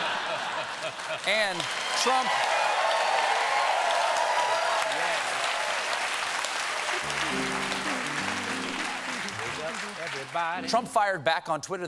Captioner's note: laughter; applause